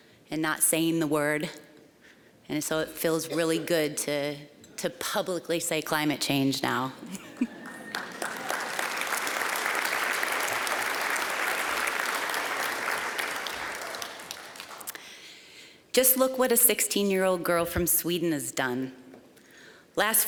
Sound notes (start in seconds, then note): 7.0 chuckling; 7.4 applause